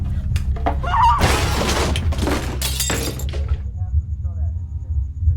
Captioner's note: chair smashes into objects